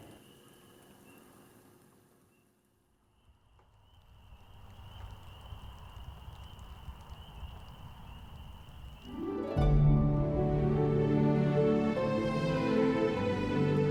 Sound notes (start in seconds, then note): 0.9 bird chirping; 9.0 gentle music